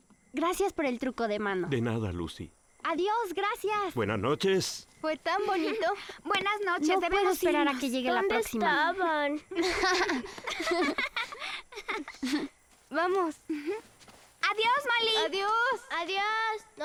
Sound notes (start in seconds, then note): 9.4 giggling